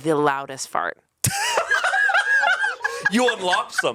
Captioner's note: cackles